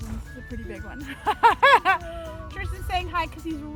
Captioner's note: laughing